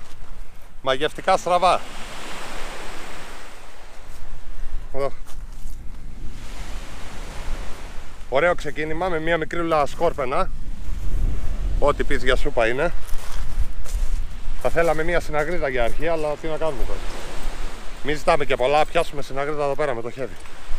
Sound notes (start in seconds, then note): 3.4 sea sounds